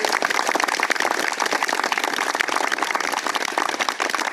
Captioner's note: crowd applauding loudly